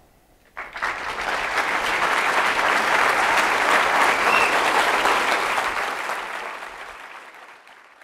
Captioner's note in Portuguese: aplausos